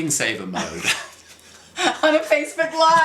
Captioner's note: both laughs